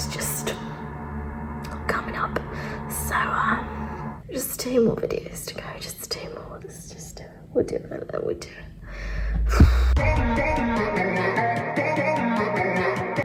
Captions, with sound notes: (suspenseful music) It's just coming up. So just two more videos to go, just two more. This is just, we're doing fine with them. We're doing (sighs). (intense pop music)